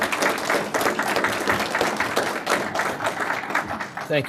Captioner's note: applause